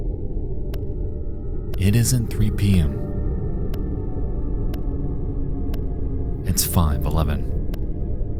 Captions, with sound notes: It isn't 3:00 p.m. (clock ticking continues) It's 5:11.